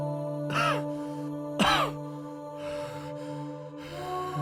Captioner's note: coughing